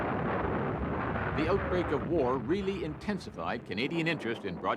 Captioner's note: cannons firing; explosions